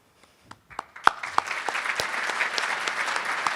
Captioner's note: applauding